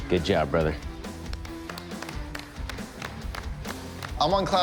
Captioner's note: applause